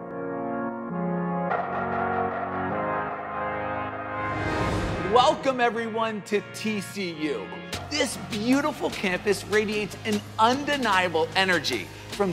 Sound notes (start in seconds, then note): 4.3 air swooshing